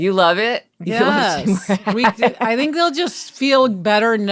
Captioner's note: laughing